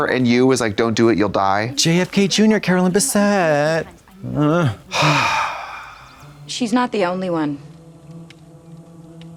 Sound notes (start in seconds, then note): 4.2 Trixie sighs